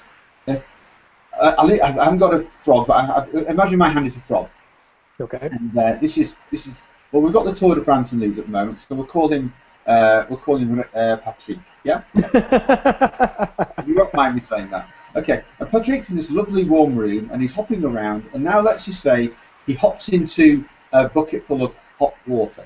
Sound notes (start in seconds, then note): 12.1 laughs